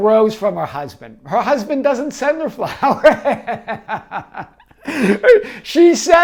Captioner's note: laughing